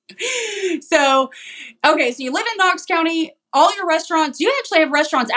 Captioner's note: laugh